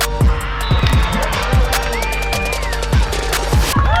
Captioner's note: crowd celebrates; crowd cheering